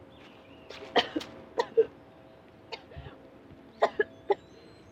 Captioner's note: Cindy coughing